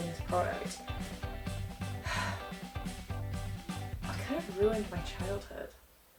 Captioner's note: sigh